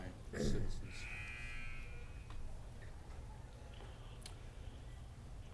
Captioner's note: sports buzzer buzzing